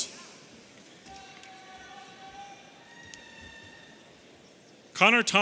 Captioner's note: audience cheering